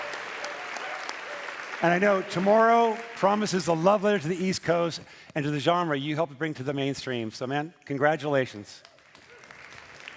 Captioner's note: cheering and Applause